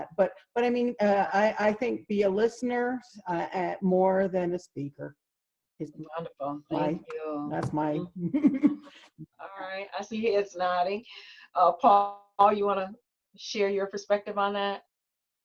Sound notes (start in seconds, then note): 7.9 laughs